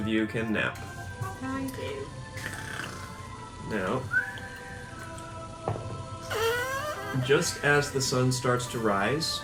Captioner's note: snoring